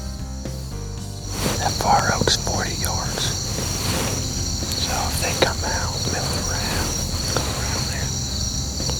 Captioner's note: whispering